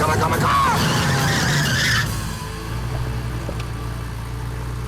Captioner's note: tires screeching